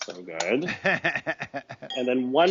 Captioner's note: laughing